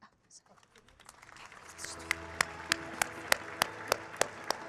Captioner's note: audience clapping